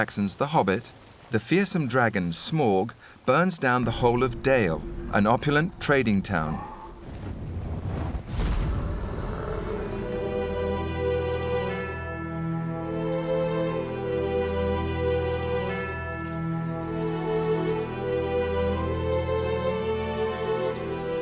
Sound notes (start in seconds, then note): 7.0 whooses; 9.6 dark orchestral music